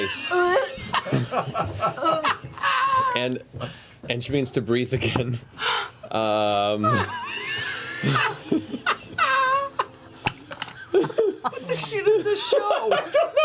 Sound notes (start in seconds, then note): 0.0 laughter/gagging; 6.7 laughter